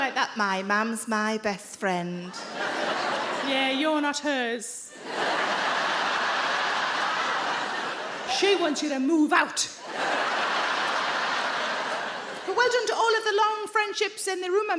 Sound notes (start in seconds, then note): 2.3 audience laughing